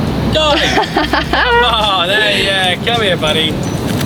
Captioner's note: laughing